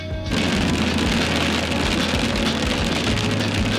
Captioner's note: rain pounding